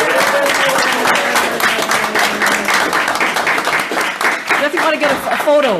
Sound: audience applauds

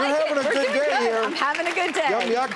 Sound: audience clapping

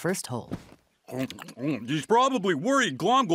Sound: gobbling

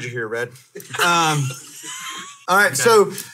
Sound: hosts laughing

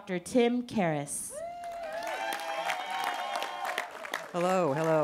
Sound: cheering

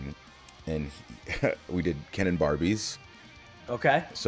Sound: laugh

